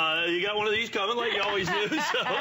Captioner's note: laughter